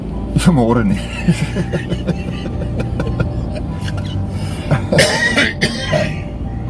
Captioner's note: laughing